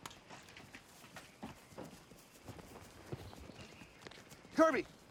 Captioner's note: footstep